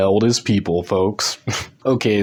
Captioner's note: chuckles